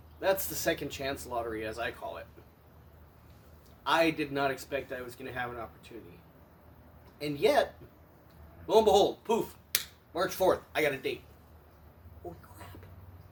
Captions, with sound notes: that's the "Second Chance Lottery", as I call it. I did not expect I was going to have an opportunity. And yet! Lo and behold! POOF! *clap* March 4th, I got a date! ...holy crap!...